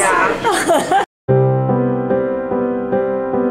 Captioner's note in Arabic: يضحك; موسيقى هادئة